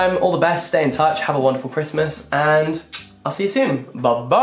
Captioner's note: kisses